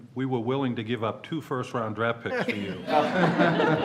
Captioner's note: laughter